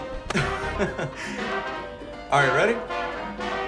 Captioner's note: Manny laughing